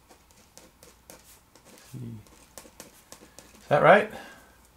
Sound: pen scribbling on paper

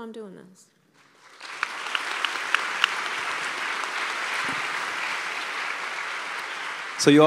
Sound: applause

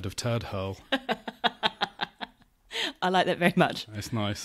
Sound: laughs

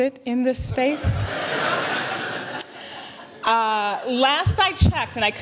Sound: laughter

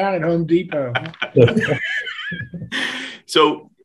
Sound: all laughing

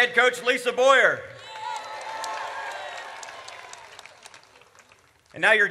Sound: audience cheers

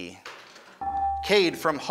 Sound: ding

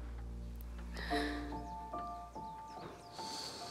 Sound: Rebecca sobbing

